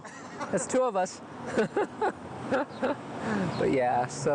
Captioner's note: laughing